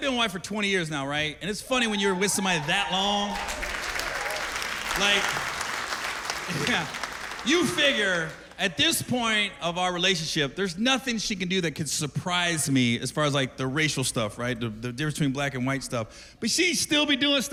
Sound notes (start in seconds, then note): 4.8 cheers and applause